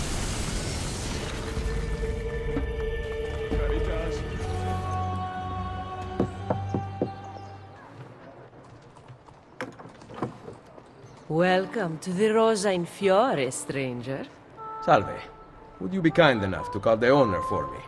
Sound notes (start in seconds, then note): 6.0 Ezio knocks; 9.2 door opens